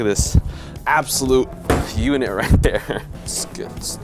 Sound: laughs

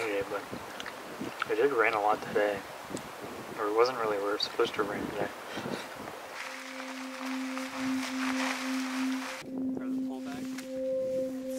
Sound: wind

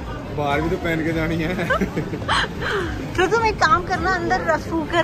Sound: laughing

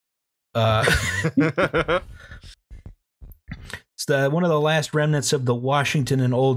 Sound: laughter

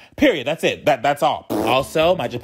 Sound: lip-trilling

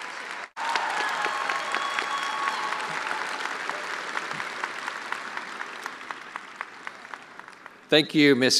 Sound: attendees applauding

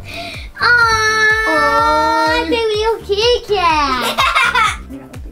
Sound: gasps; giggles

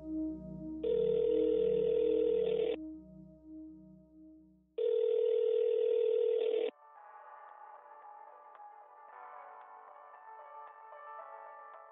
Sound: sound: ringing tone, hold music

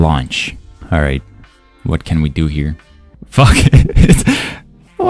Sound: chuckle

